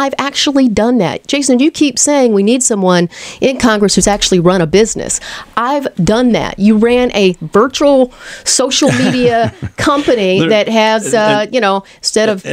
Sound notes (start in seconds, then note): 8.8 LEWIS laughs